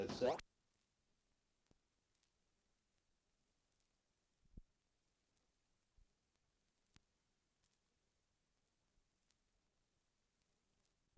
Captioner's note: silence